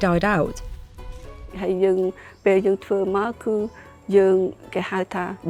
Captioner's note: speaking foreign language